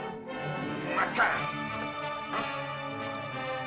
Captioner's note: suspenseful music; Akhoba speaks in caveman language; suspenseful music